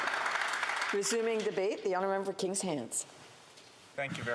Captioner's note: applause